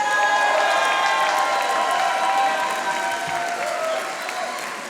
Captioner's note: audience applauding